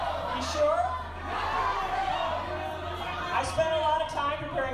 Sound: crowd of students

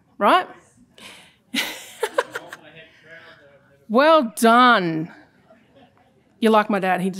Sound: chuckling

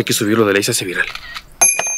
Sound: click

